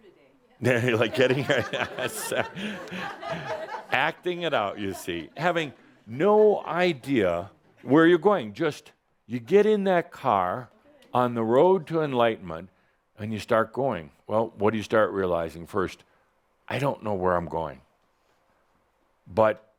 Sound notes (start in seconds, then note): 0.6 chuckling; 0.7 some chuckles